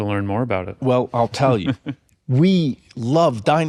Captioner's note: chuckles